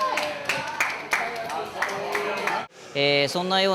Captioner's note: crapping hands